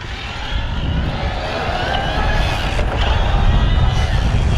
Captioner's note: bicycle motor roars